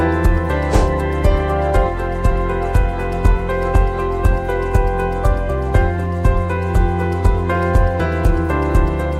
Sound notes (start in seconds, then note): 0.6 air whooshing